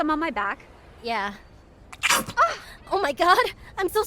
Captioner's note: loud squirt; gasp